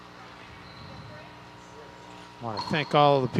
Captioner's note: people chattering